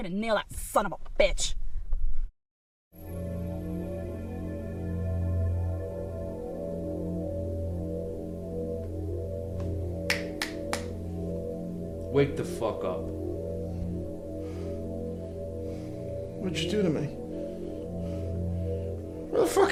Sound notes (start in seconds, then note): 3.4 eerie tones; 10.1 fingers snapping